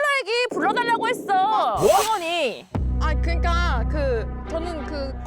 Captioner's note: innocent sound effect; serious sound effect